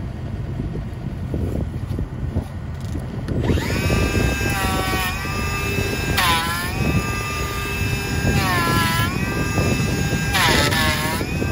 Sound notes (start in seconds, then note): 0.2 wood clattering; 4.9 planer whirring